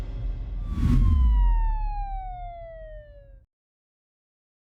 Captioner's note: siren wailing